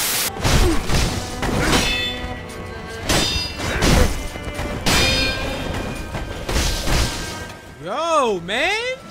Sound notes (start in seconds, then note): 0.0 static; 1.0 Sekiro deflects blows